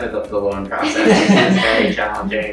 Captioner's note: laugh